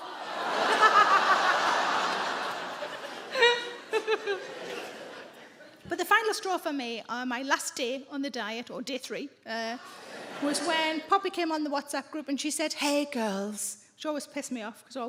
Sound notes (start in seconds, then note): 0.0 audience laughing; 9.8 audience laughing